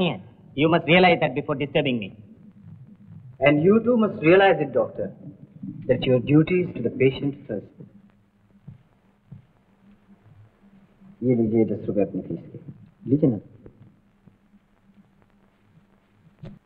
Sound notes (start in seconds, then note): none